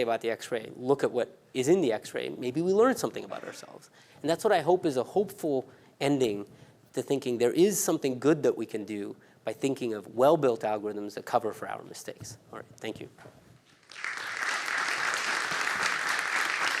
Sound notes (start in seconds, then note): 13.7 applause